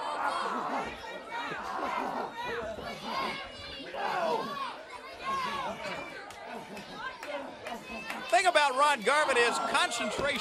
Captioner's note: crowd chatter